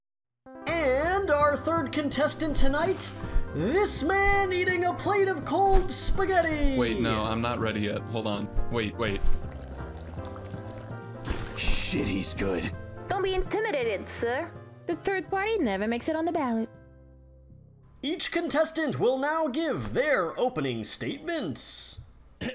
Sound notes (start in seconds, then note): 0.0 silence; 9.2 slurping sound; 11.2 plate crash